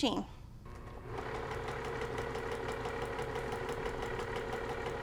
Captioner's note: sewing machine whirring